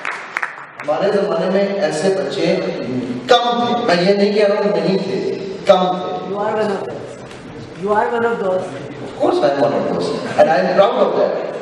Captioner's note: clapping; crowd